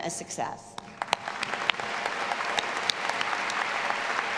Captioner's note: all applauding